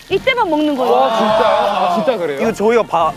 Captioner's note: !!!!!!woah!!!!!!